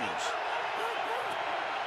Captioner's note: cheering